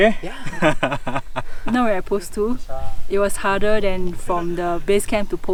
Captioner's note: laughter